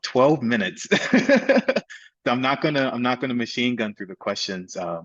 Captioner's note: laughs